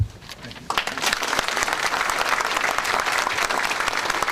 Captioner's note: audience clapping